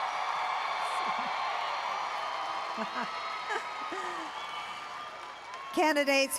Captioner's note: applause and Cheering